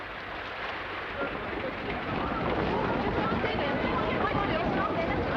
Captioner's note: people murmuring